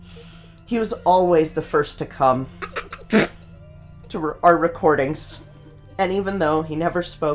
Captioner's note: sputters